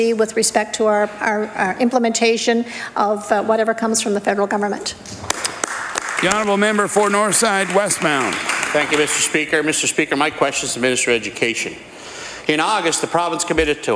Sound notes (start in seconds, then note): 9.9 applause